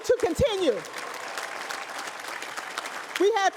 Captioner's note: applause